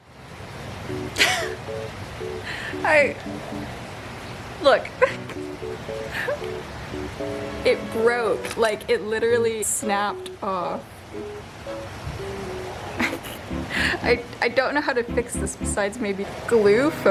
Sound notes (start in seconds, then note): 1.1 laughs in dismay